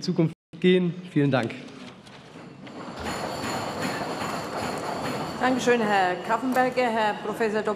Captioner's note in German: Tischklopfen